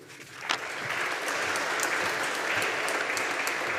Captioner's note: audience applauding